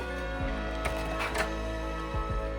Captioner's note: door opens